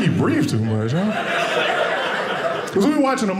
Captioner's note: audience laughing